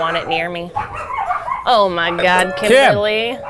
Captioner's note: dogs barking